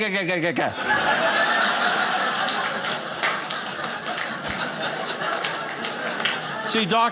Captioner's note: audience laughing